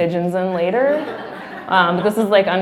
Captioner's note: laughing